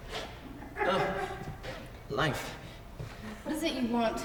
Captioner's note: audience laughs softly